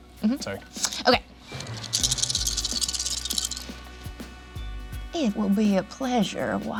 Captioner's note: dice rattling